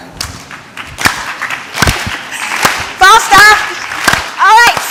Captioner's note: applause